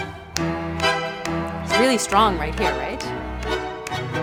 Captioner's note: clapping